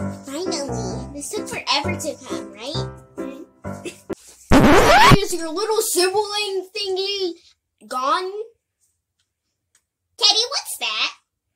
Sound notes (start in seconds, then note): 4.5 radio Scratch